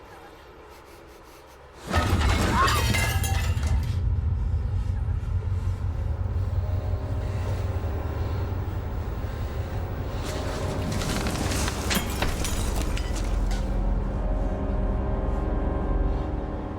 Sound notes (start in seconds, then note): 1.8 banging and crashing; 7.5 suspenseful music